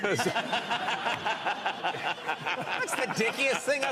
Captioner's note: laughing